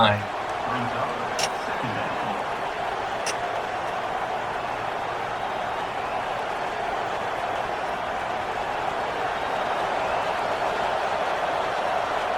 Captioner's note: crowd cheering